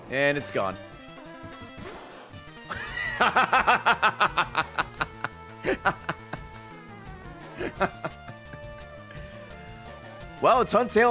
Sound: laughs

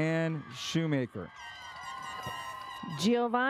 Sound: audience cheers

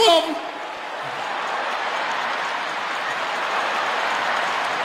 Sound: audience laughing

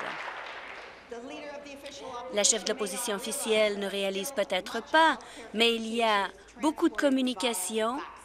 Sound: applause

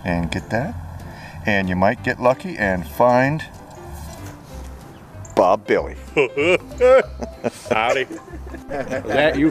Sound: chuckle

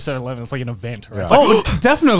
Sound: gasps

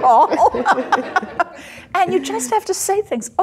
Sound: laughs; audience laughing

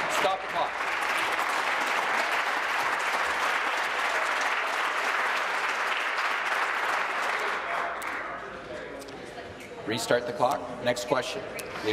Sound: applause

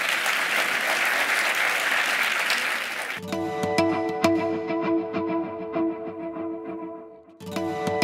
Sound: applause

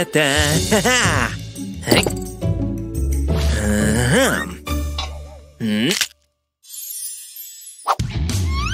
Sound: cracks fingers

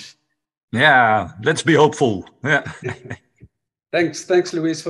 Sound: laughs

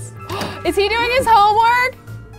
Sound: gasps

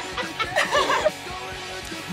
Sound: both laugh

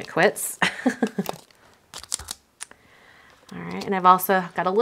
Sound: laughs

